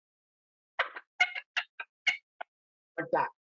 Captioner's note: turkey call sounds